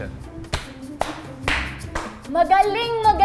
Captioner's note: clapping